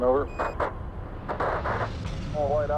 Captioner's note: radio static